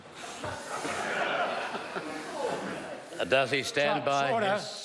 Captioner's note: members laugh